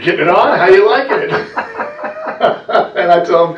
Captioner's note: laughter